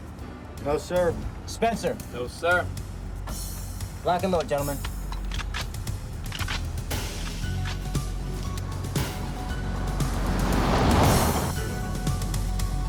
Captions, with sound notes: - No, sir. - Spencer? - No, sir. - Lock and load, gentlemen. (guns clicking) (tense music continues)